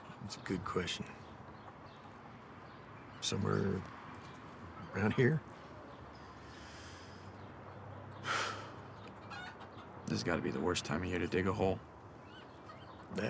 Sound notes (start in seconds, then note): 8.2 Isaac sighs; 8.3 chickens squawking